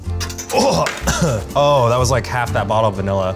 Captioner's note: coughs